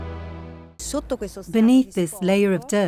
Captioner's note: speaking in foreign language